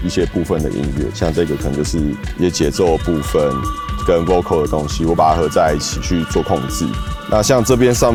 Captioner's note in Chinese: 人聲